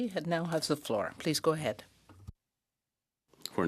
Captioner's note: speaking French